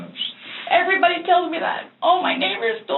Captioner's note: tearful